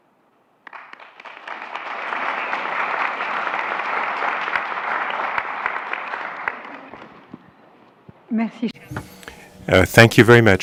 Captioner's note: applause